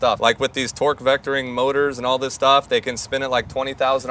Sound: none

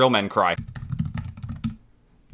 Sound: aggressively typing

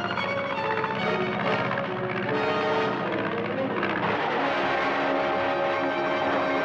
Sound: propellor rumbles; dramatic music

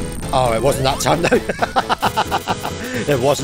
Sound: chuckles

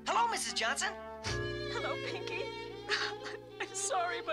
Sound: sobs

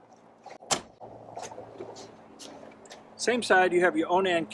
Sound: trunk door thuds

